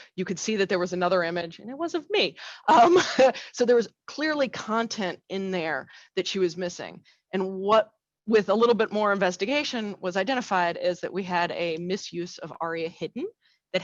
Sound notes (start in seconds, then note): 2.7 laughs